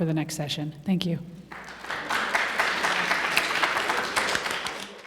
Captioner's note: applause